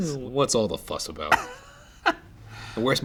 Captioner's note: laughs